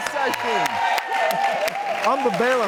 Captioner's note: audience cheers